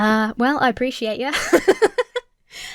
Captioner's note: laughs